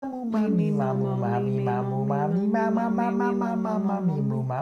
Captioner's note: humming